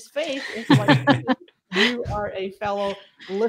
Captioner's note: laughter